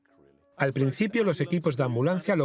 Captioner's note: voiceover